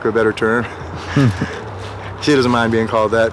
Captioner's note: laughs